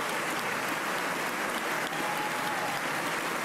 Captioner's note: applause